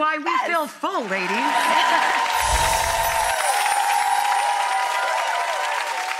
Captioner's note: audience cheering and clapping